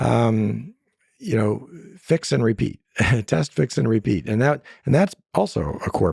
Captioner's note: laughs